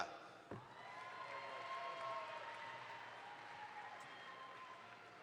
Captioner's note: audience applauds